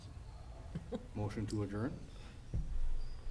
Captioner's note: laughing